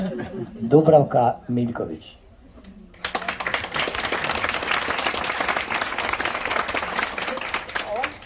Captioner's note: applause…